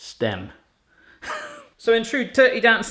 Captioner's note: laughs